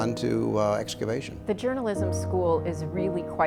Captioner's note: voiceover